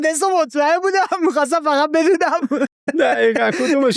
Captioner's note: laughs